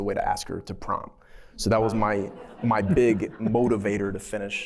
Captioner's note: laughter